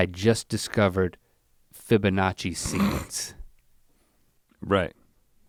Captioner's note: Rhett chuckles